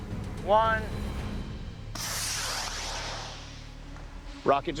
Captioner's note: rocket blasting